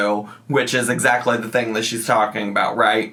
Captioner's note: none